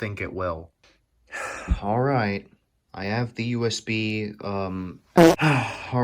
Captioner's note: sigh